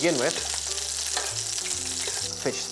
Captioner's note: sizzling sound